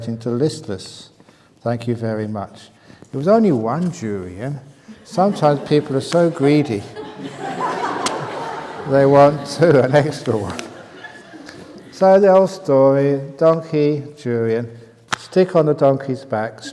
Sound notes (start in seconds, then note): 6.8 laughter